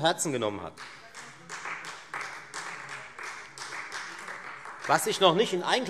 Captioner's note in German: Beifall Freie Demokraten